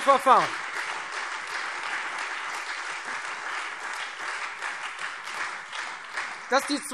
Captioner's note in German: Beifall Freie Demokraten und SPD